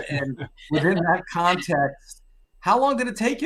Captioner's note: panelists chuckling